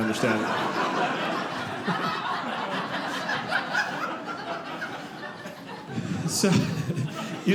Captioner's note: audience laughing